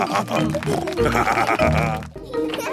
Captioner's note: snorting; laughing